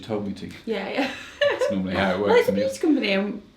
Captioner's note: laughs